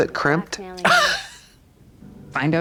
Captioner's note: Katya creaks